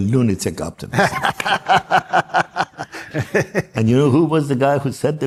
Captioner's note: laughs